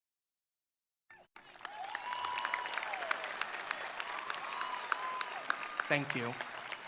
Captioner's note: attendees applauding; attendees cheering